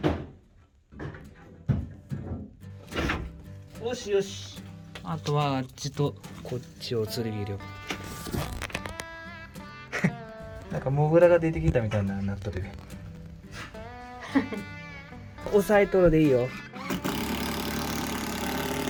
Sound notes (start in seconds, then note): 14.0 laughs